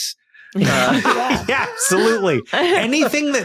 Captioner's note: group laughing